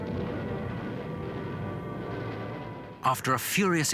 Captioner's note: plane engines roaring